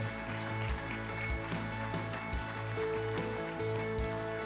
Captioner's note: audience applauds; upbeat happy music